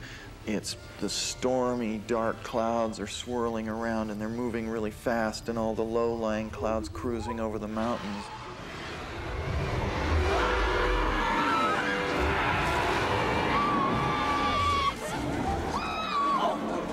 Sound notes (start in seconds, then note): 9.1 growling; 10.2 all screaming